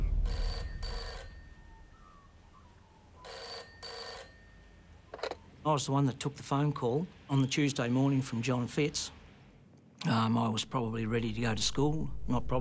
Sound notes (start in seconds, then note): 0.1 phone rings; 1.5 magpie warbles distantly; 3.2 phone rings